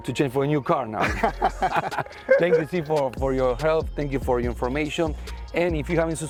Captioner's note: laughs